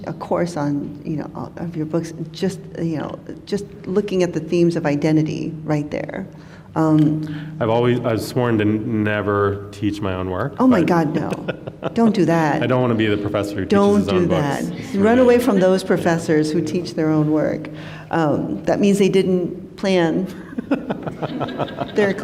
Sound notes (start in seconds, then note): 10.7 laughs; 20.3 laughter